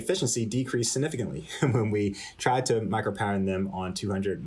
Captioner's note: laughter